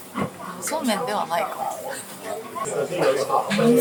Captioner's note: laughs